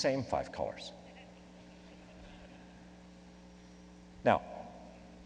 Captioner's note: laughing